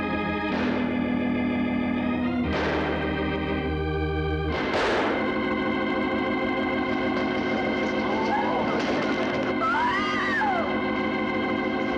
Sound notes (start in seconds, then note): 9.6 screams